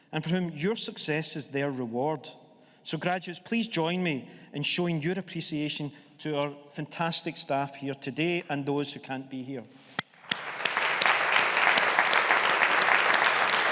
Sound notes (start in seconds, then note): 10.2 audience applauding